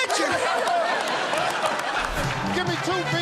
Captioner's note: laughter